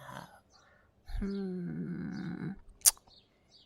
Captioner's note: smacks lips